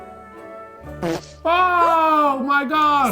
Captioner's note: comical fart